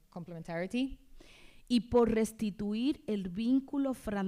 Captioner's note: speaking spanish